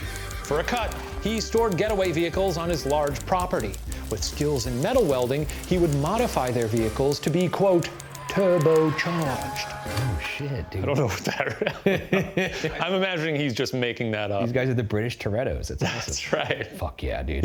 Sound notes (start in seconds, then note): 10.8 chuckling